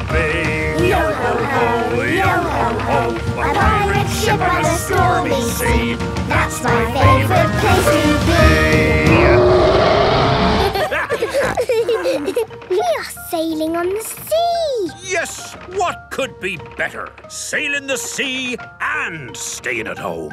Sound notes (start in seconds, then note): 8.5 roaring; 10.6 laughter; 10.7 snorting